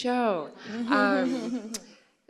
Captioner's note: laughter